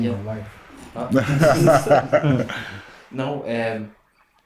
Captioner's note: laughing